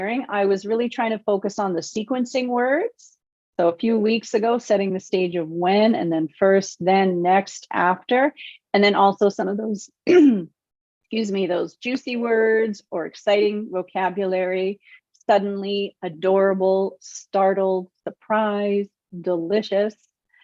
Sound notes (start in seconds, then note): 10.1 clears throat